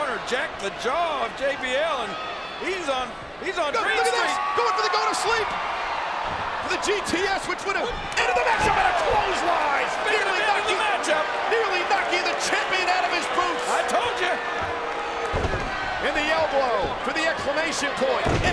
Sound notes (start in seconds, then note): 10.4 crowd cheers